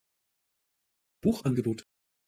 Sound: fast Pronunciation

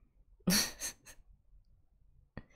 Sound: laughs

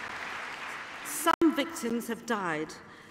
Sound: applause

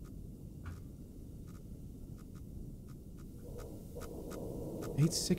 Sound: machine whirring

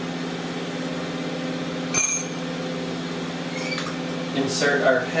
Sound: spoon clatters

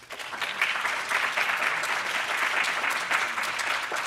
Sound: applause

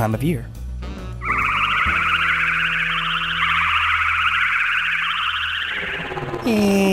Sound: spaceship flying sounds

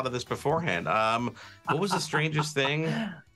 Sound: laughing

